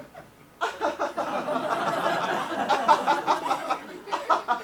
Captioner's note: audience laughs